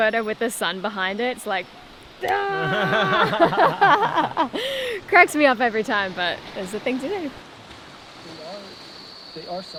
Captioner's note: ahhhh